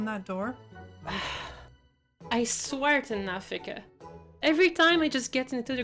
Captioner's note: sigh